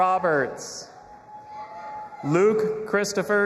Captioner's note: audience applauding and cheering